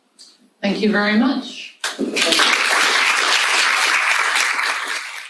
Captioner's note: audience applauding